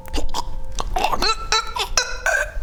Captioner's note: gasping for breath